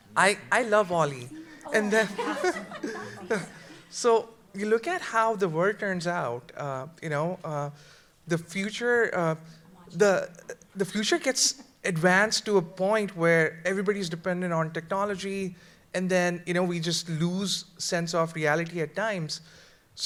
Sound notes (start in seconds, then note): 1.1 panelists laugh